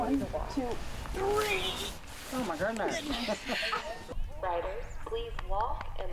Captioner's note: laughing